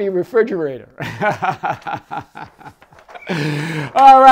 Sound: laughs

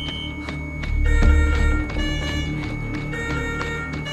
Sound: sustained high-pitched beep

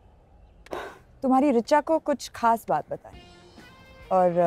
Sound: sighs

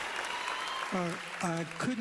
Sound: cheering, applause

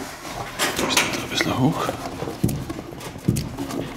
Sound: quietly

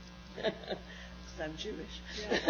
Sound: laughs; laughs

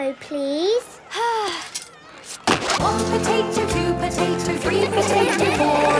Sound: Belinda sighing; laughter

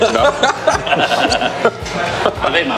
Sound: laughing

